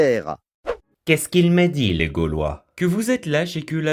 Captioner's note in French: accent italien